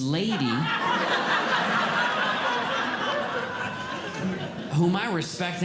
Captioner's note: audience Laughing